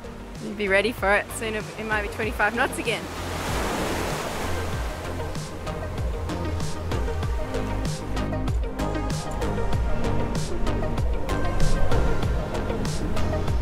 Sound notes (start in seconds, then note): 3.6 waves crashing